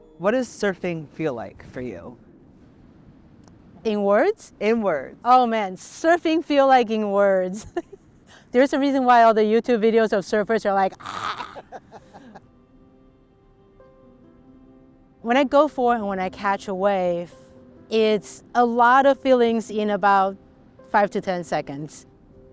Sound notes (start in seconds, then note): 7.9 laughing; 10.9 laughing; 11.0 screams